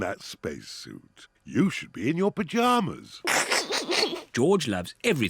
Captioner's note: chuckles